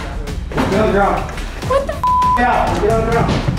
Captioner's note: beep